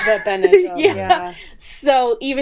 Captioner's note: laughing